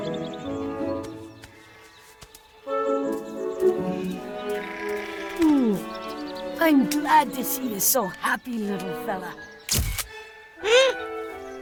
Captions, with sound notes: (calm music) I'm glad to see you so happy little fella. (camera clicks) What was that?